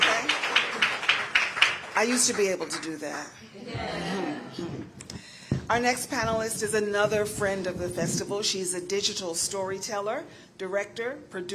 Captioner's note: applause